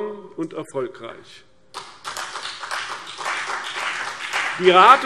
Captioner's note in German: Beifall CDU und BÜNDNIS 90/DIE GRÜNEN